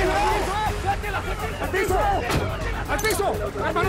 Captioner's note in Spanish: Gritos